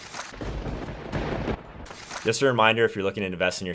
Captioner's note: thunder bangs